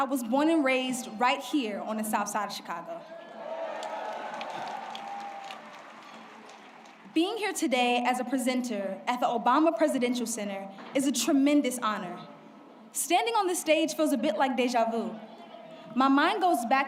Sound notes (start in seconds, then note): 6.3 applause